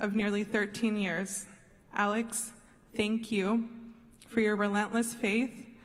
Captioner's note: none